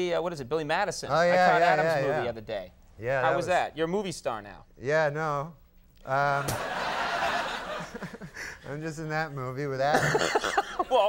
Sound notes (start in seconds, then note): 6.1 Conan laughing; 6.4 audience laughing; 9.9 Conan laughing; 9.9 Norm laughing